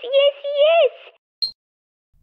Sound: beep!

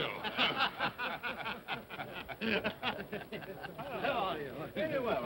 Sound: men chuckle

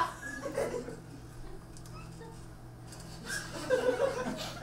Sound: audience laughs

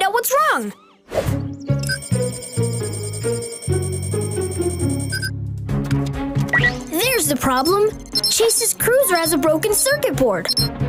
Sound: blip Blip

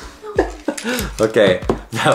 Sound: laughs

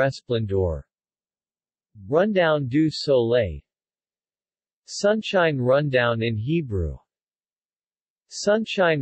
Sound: Sunshine Rundown in Hebrew

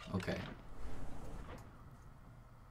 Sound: door opens

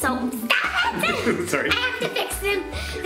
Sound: laugh; laughing

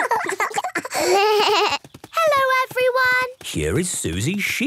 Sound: laughter; bleating

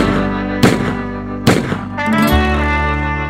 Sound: A Gunshot

